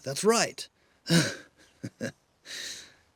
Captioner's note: chuckles